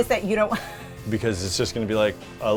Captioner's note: chuckles